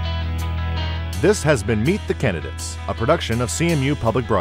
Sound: voiceover

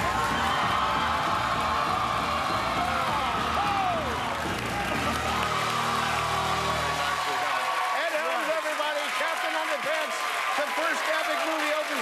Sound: cheers and applause

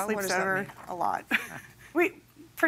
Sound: chuckles

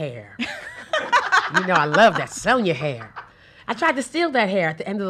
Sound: laughs

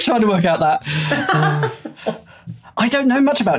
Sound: cackles

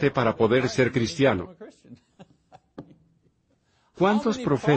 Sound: laughs

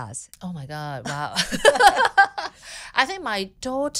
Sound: laughing

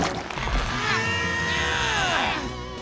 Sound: grunting

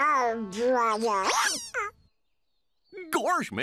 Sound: hiccups

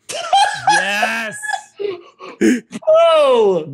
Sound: laughs

